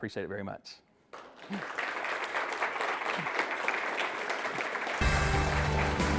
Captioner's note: attendees applause; dramatic music